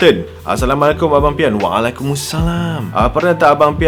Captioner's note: dramatic accent 😂